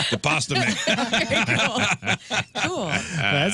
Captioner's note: laughing